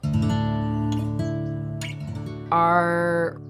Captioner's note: gentle music; birds chirping